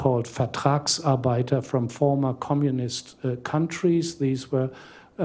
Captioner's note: non-english